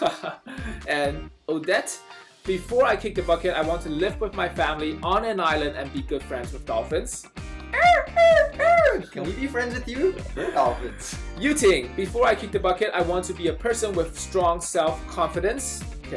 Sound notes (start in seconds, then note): 7.7 dolphin sounds